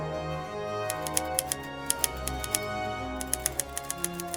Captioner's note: letters click